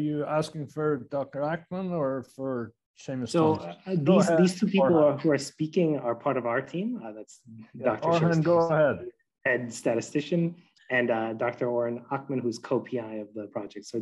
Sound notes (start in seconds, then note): 8.1 man and chattering